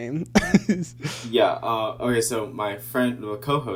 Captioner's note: laughing